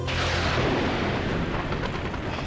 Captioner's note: thunder